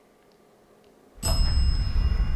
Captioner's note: bell